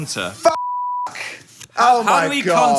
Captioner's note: beep